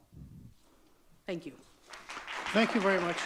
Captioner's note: audience clapping